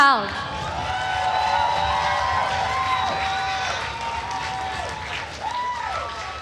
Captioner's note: attendees cheering and applauding